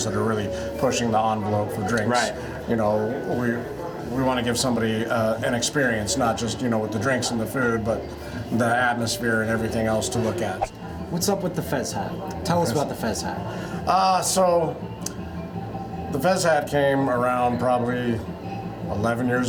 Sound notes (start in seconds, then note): none